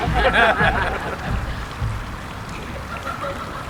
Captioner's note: laughing